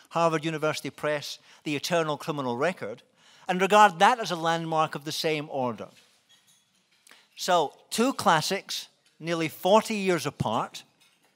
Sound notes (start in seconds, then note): none